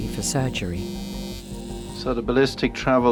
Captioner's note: shaver buzzing